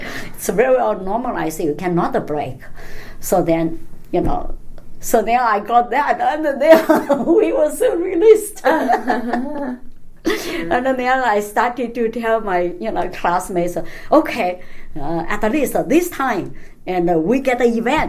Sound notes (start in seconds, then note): 5.7 laughs